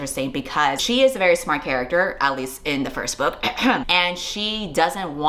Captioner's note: ehem